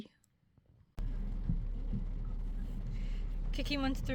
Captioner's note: rain